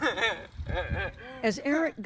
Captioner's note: laughter